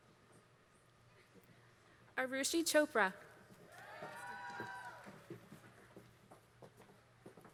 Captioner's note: applause